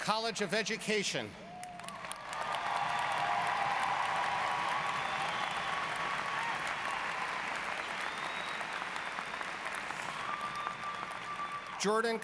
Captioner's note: applause